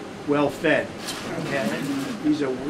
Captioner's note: laughter